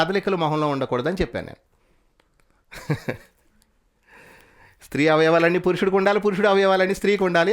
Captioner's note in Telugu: నవ్వు